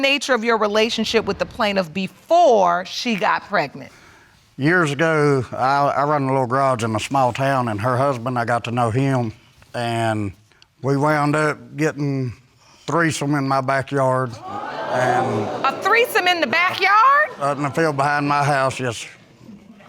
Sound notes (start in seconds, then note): 14.4 audience exclaiming